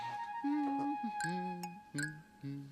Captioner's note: humming